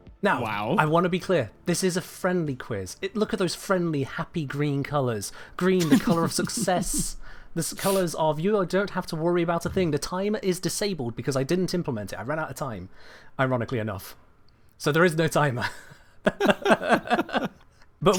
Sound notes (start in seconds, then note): 5.8 chuckles; 16.2 both laugh